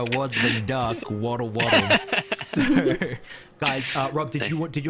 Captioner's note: laughs